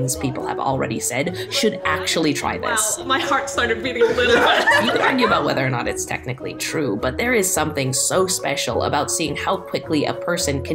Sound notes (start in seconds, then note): 3.8 group laughing